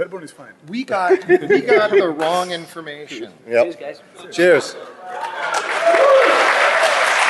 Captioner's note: laughing; applause